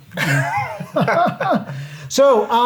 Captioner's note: laughing